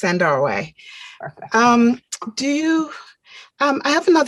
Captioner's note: chuckling